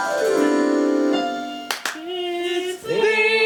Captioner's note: ROWAN claps